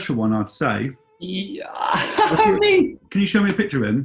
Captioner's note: laughs